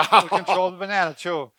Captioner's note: laughing